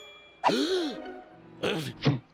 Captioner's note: gasps